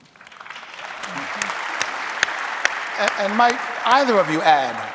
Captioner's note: audience applauding